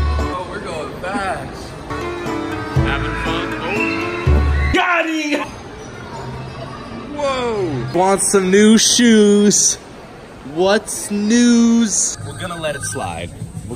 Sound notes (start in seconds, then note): 5.0 voiceover